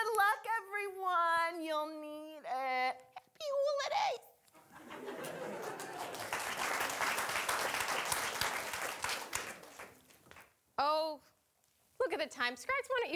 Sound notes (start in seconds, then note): 4.6 audience laughing; 4.8 audience applauding